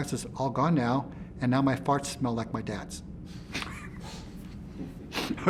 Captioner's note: laughs